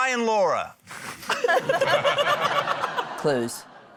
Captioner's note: laughter